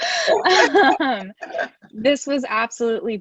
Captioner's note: chuckle